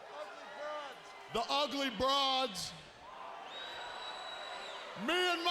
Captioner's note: attendee whistling